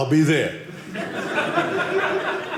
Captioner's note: audience laughing